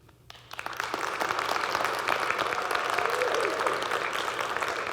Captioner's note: audience clapping